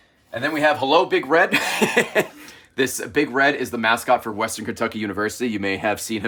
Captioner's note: laughs